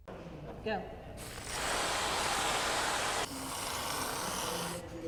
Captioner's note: cans hissing